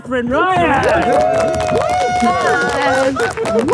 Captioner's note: crowd cheering